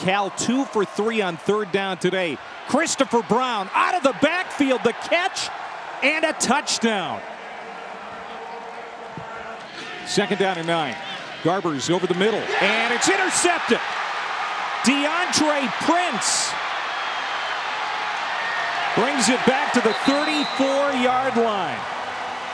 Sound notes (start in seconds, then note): 7.5 crowd cheering